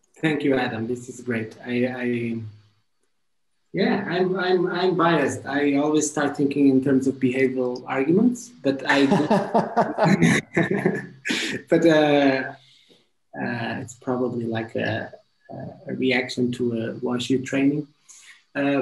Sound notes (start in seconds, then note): 8.9 chuckles